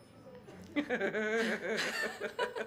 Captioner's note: laughing